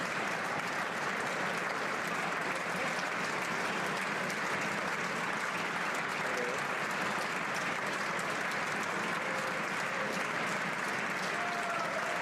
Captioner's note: applause